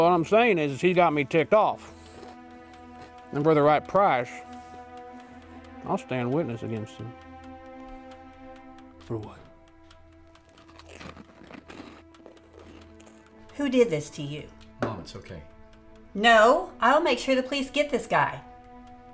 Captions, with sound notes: - What I'm saying is, he got me ticked off. And for the right price, I'll stand witness against him. - For what? (munching) - Who did this to you? - Mom, it's okay. - No, I'll make sure the police get this guy.